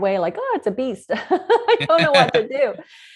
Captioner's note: laughs